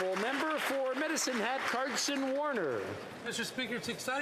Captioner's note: applause